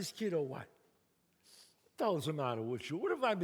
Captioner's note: sniffs